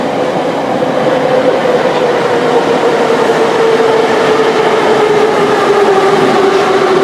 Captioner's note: braking - arrival at the station